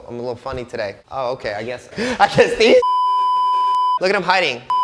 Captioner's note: beeping